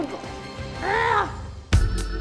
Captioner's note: groans; upbeat music